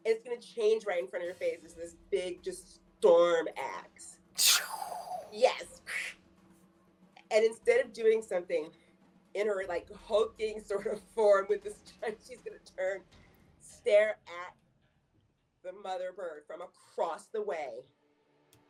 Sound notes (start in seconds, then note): 4.4 imitates swooshing sound